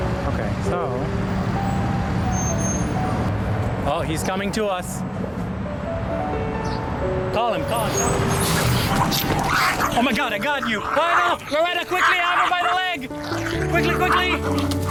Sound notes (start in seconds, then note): 1.4 cars driving; 7.8 snarling